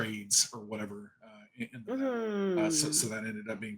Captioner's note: audio cutting out